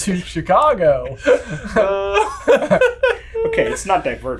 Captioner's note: everyone laughing